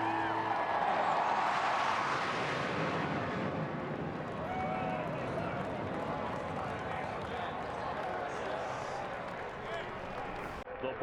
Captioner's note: cheers and applause